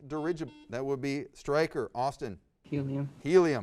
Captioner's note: buzzer